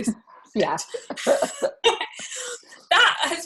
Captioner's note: both laughing